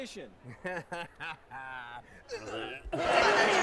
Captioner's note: laughing